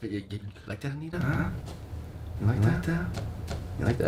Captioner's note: sounds of disapproval and disappointment, with himself or remains unknown